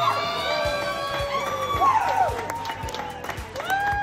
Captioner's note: crowd cheering